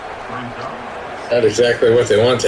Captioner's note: crowd Noises